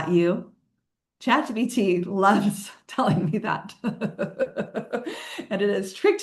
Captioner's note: laughing